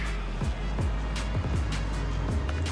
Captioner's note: vehicles driving